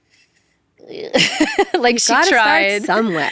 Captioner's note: laughs